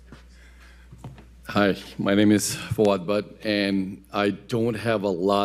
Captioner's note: none